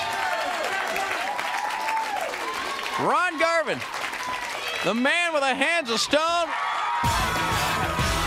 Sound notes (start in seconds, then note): 2.2 crowd cheering